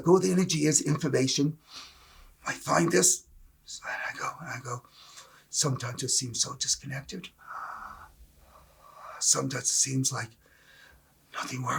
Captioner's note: breath